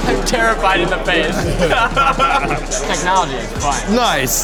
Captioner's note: laughs